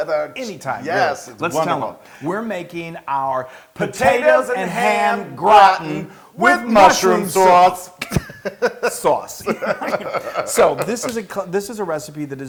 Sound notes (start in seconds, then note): 8.0 laugh